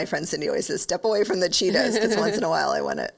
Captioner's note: laughing